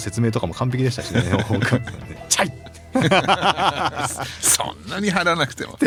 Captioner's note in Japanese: 笑い